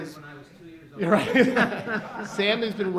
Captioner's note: laughs